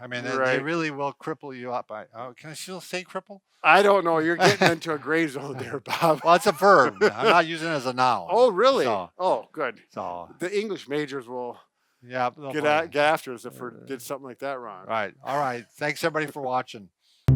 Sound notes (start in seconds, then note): 4.2 laughs